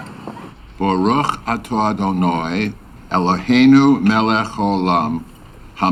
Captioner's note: speaking in foreign language